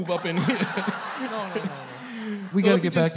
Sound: laughter

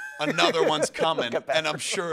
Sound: laughs

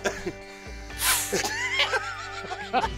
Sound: blows; laughter

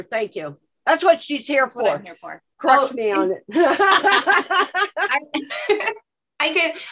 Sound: both laughing

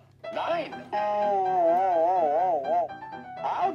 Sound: boing

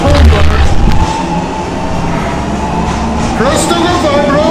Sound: demonic gurgling

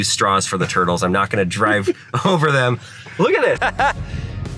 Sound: laughing; laughs

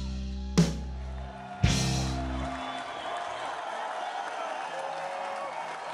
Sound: audience cheers and applauds

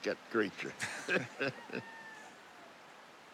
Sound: both chuckling

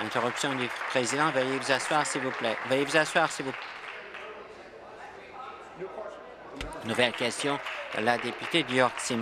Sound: applause

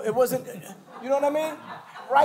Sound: laughter

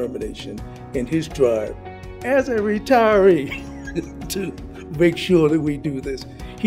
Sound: laughs

